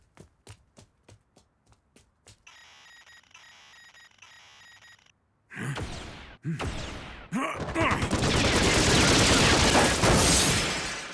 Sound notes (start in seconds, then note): 5.5 grunts